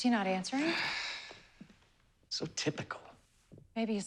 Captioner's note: sighs